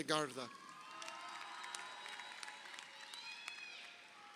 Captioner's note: crowd cheering